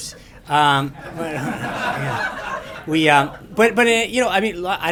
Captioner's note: laughter